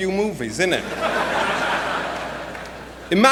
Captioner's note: laughter